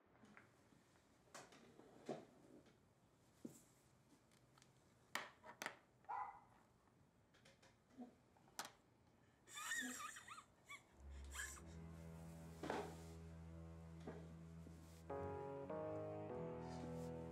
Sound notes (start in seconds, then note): 6.0 dog barks; 9.6 Dad laughs; 10.9 tense music